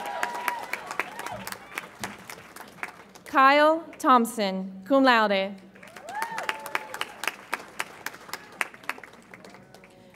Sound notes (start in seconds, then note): 0.0 audience applauds and cheers; 5.7 audience applauds